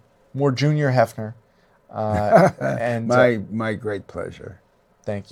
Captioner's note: laughs